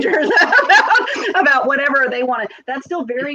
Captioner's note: laughs